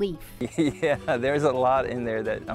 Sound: laughing

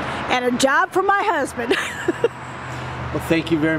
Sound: laughing

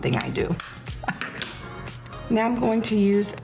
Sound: laughs

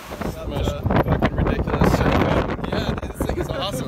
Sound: wind rustling with microphone

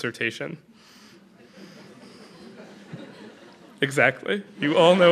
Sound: laughter

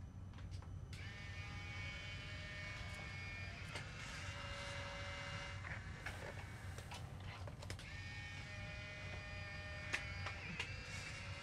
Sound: Polaroid whirring

